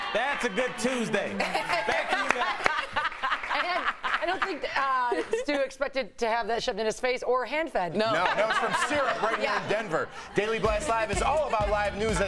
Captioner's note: laughter